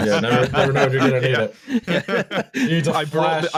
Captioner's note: laughing; laughter